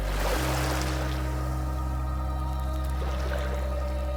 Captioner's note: water lapping